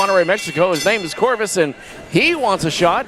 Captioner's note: bell clangs